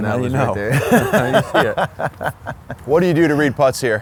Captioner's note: laughs